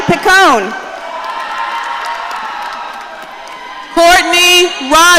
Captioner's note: audience cheering